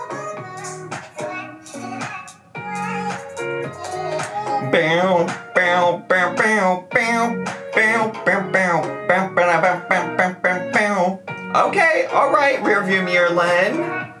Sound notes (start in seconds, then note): 0.3 upbeat music; 5.2 making music sound effects